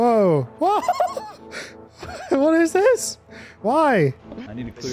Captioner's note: continues to laugh; laughs